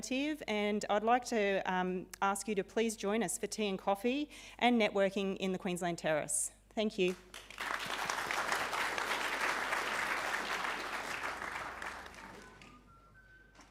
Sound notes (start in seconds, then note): 7.2 audience applauding